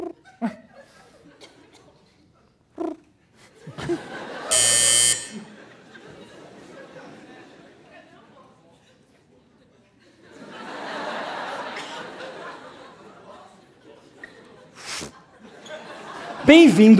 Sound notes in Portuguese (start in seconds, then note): 0.2 arrulhos; 4.4 campainha